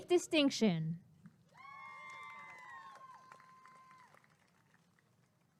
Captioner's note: applause and cheering